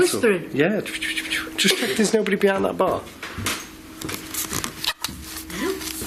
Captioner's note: whispers